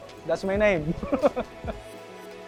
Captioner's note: laughs